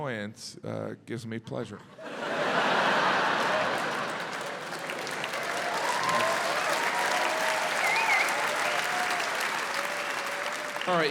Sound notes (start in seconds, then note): 2.0 audience laughs; 4.6 audience cheering, applauding